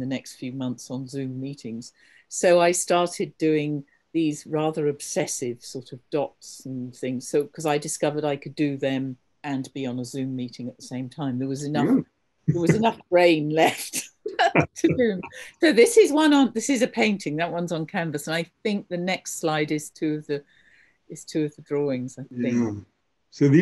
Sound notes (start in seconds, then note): 15.2 both laughing